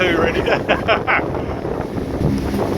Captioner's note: laughs